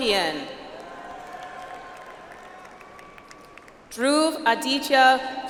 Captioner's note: audience applauds